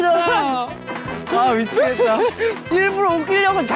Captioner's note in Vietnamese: Cười xỉu